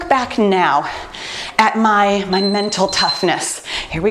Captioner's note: beeping